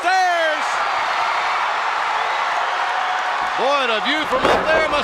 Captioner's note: crowd cheers